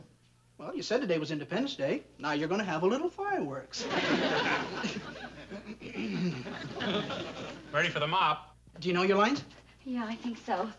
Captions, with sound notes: Well, you said today was independence day. Now, you're gonna have a little fireworks. (chuckles) Ready for the mop. -Do you know your lines? -Yeah, I think so.